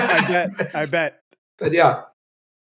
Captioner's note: laughs